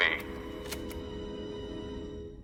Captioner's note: tape clicks